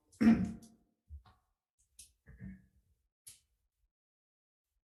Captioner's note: vice chair clears throat